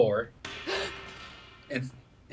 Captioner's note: loud banging; gasping